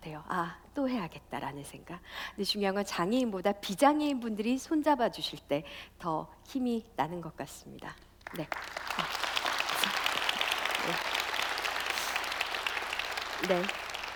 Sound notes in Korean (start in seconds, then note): 8.2 박수